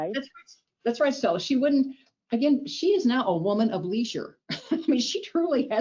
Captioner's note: chuckles